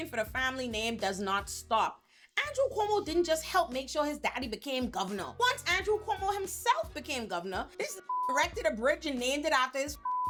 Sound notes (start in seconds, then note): 8.0 beep; 10.0 beep